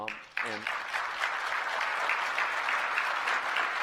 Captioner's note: applause